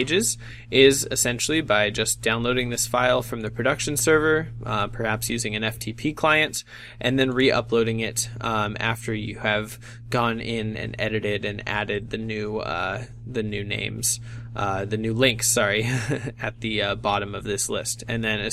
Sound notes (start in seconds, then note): 15.8 laughs